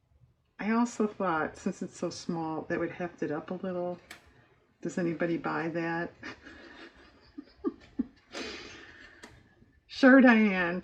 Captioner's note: laughs